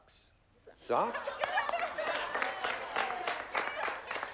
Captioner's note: laughter